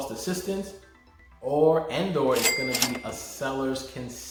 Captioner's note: register rings